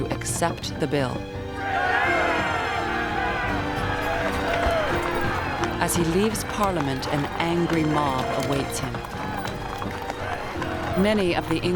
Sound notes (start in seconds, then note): 0.8 shouting